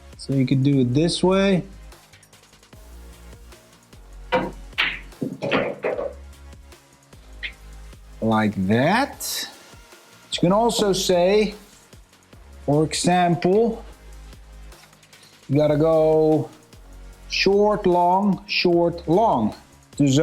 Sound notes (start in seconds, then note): 2.5 lively music; 4.7 balls clanging